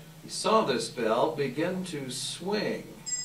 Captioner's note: bell ringing